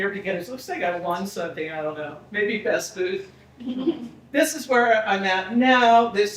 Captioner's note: people laughing